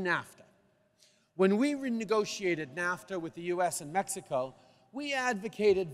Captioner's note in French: none